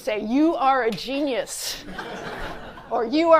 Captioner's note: laughter